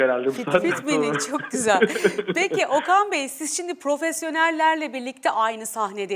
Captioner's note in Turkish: kahkaha